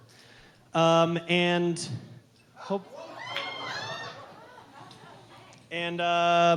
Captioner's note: crowd cheering